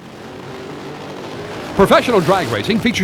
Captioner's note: engine roars